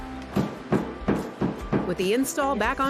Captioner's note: pounding